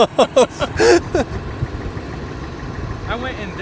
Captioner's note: laughs; engine rattling